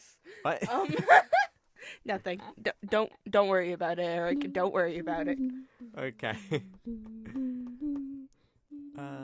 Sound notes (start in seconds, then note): 0.6 laughter